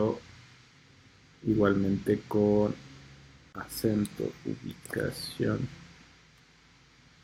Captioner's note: in spanish only